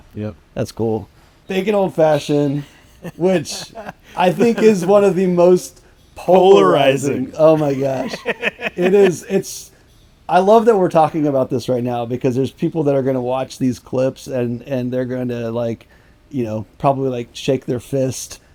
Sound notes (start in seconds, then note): 6.3 laughing